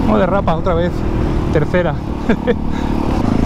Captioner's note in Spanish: risas